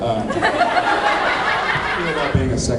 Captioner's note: laughs